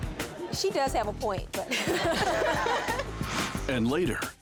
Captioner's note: laughing